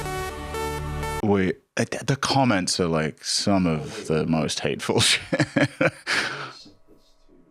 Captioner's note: laughs